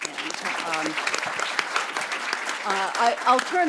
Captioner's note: audience claps